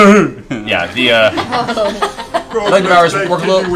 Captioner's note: laughter